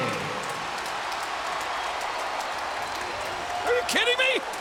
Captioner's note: audience cheers